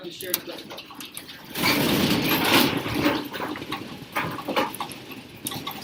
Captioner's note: loud rumbling and rattling